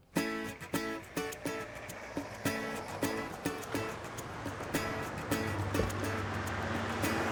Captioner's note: upbeat music; engine rumbling